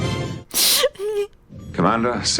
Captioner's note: sobs